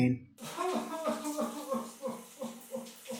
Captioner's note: crying